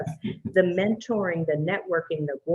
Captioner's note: chuckles